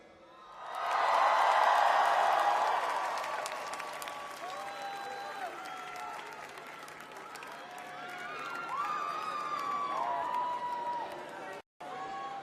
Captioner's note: crowd cheering